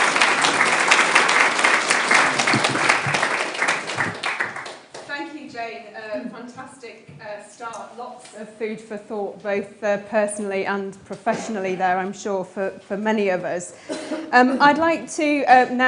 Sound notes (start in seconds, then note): 3.7 applause